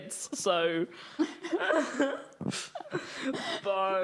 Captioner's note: all laughing